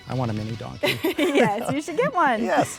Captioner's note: laughing